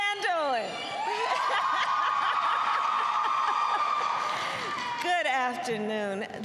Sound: applause and laughter

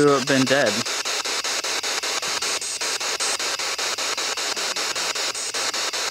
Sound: loud, choppy static

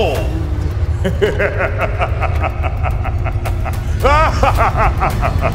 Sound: Dr. Oddfellow laughing

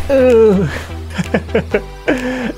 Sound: chuckles

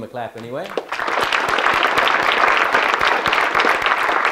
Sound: audience clapping

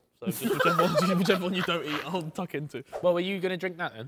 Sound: men laughing

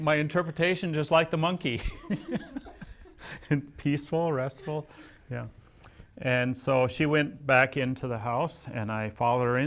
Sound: laughs

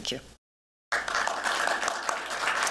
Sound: applause

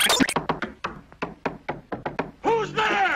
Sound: someone knocking on the door to the rhythm of " "

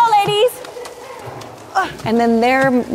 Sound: water splashing

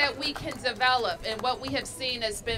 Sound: applause

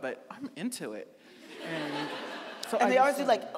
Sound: audience laughing

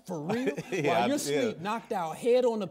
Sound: laughs

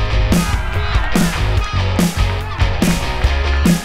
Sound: cheering

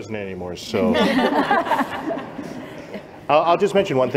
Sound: laughter

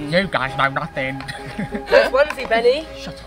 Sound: laughing

